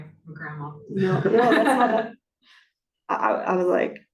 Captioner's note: laughter